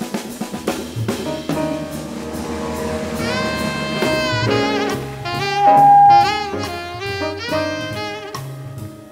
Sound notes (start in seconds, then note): 2.7 audience applauds; 5.0 upbeat jazz music continues